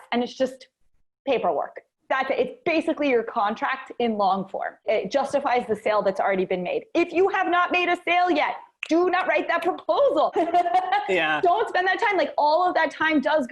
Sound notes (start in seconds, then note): 10.0 snaps fingers; 10.3 laughs